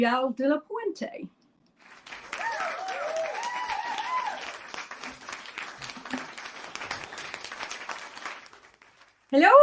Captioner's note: applause